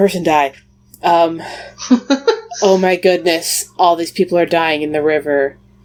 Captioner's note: laughs